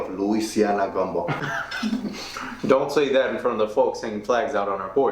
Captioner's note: laughing